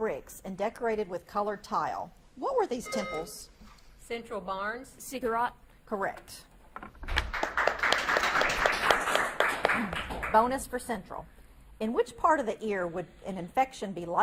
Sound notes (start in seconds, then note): 2.8 buzzer beeps; 7.1 audience claps